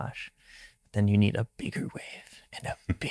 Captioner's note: whispering loudly